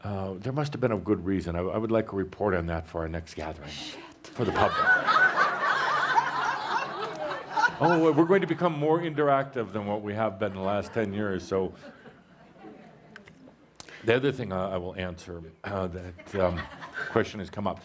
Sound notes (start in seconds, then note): 4.4 much laughter; 4.4 whispering